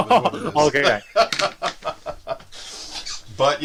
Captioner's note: laughs